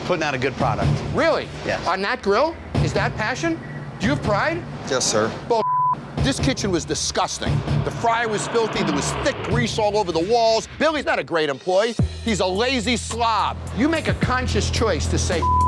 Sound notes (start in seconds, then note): 5.6 beep; 15.4 beep